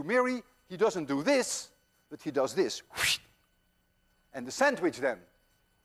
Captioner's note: whooshes